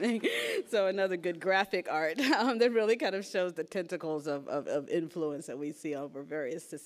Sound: laughs

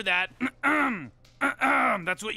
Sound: clears throat

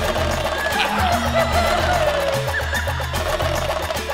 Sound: hooting

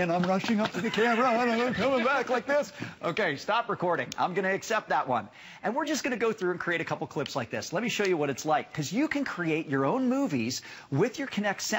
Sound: laughter

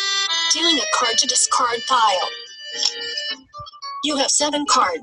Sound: voiceover

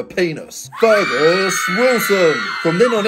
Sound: crowd screams

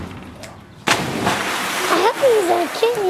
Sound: growling; water splashes

